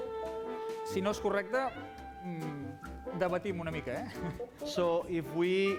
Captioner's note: non-english speech